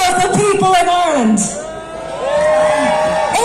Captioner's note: crowd shouting 'shame' and cheering